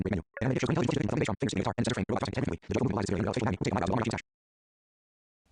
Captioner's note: extremely fast speaking